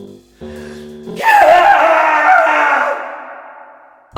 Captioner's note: more off screen screaming